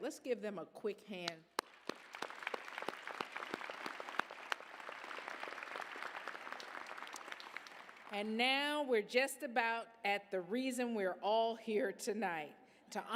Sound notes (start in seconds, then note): 1.5 applause